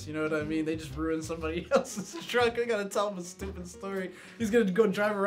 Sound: laughs

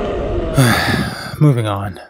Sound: Colossus groans in pain at half-speed; sighs

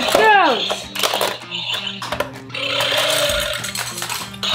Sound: dinosaur sound

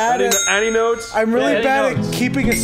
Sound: ding Dong

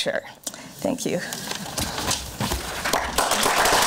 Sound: papers shuffling; crowd applause

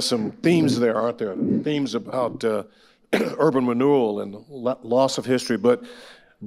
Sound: coughs

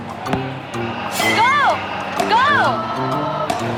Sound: whoop

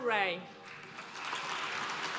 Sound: applause

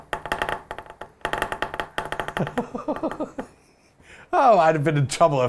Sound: wood taps

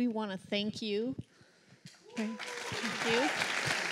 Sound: applause

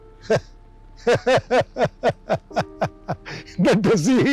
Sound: laughing

